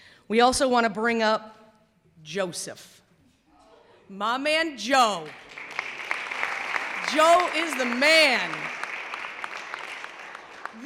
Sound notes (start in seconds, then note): 5.2 clapping